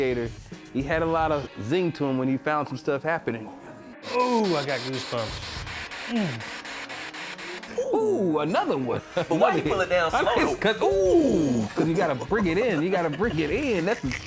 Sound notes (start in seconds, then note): 6.1 grunt